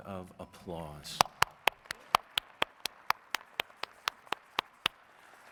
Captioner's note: audience applauds